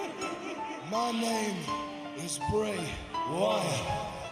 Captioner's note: evil laughing